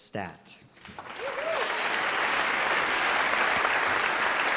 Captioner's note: applause